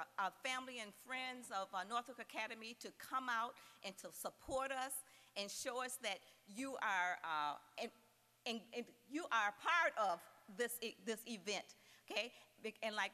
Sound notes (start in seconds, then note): none